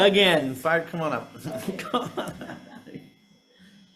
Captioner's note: laughing